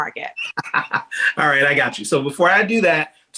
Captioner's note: chuckling